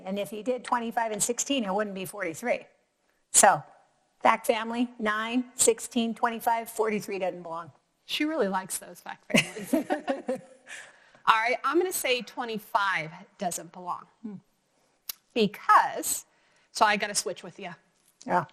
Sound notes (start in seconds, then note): 9.3 both laughs